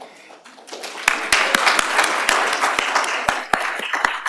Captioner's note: applause